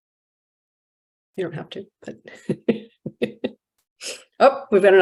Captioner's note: chuckles